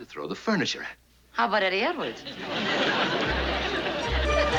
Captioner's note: laughs